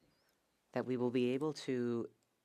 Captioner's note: speaking French